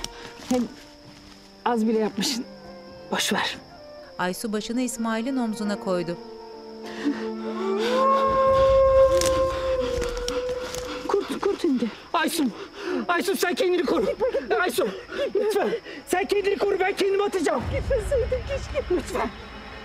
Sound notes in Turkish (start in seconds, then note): 6.8 Nefes sesi; 7.5 Kurt uluma sesi